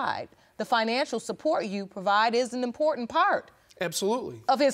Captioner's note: none